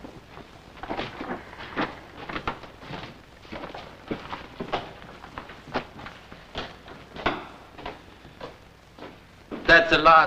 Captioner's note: footsteps